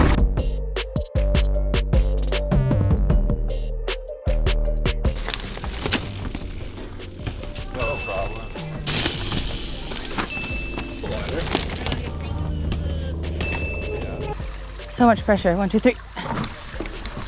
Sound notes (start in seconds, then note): 0.1 lively music; 5.4 wheels whooshing; 9.0 wheels wheezing